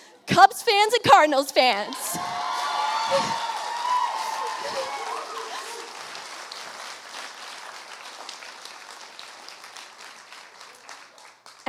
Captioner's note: applause